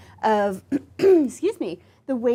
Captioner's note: clears throat